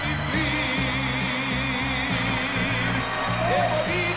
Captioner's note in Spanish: Aplausos